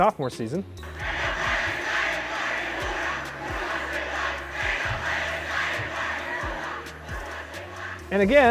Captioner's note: chanting